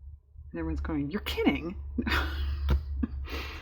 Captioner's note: laughs